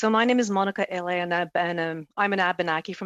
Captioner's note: speaking French